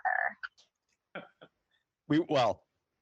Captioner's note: laughs